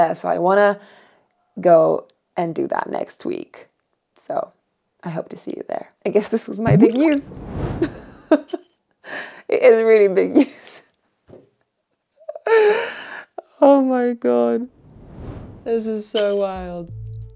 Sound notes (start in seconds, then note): 6.6 graphic whooshes; 7.5 chuckles; 11.8 chuckles